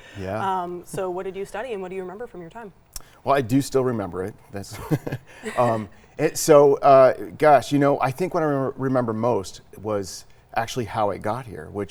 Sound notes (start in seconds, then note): 4.7 laughs